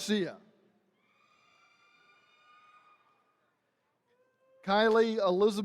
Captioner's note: attendees cheering